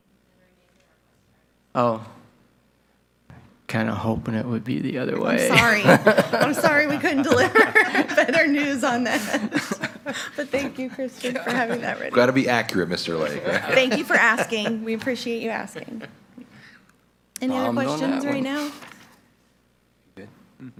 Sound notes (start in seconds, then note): 6.5 chuckles; 8.0 laughing